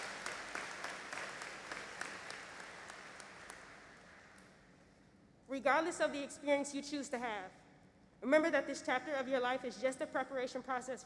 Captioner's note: applause